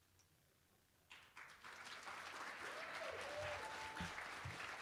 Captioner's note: applause